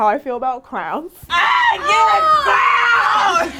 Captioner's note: yelling